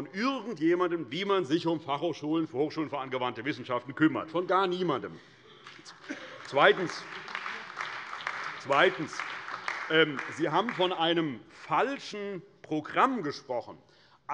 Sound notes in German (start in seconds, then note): 5.6 Beifall bei der CDU und dem BÜNDNIS 90/DIE GRÜNEN